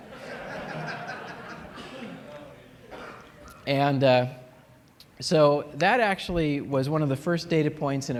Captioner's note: laughter